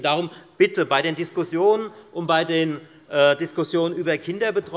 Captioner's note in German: none